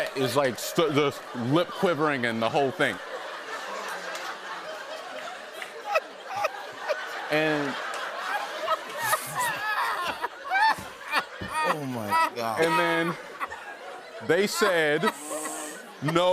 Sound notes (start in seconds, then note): 3.4 laughter continues